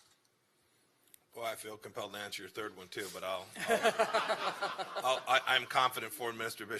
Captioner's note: laughter